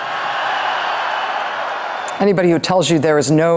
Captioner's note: audience Cheers